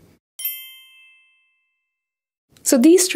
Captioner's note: bells chiming